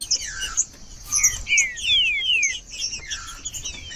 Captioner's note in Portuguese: trinca ferro cantando